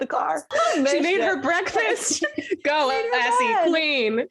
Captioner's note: laughs